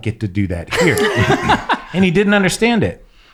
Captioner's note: laughing